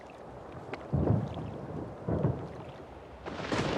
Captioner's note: waves thundering onto beach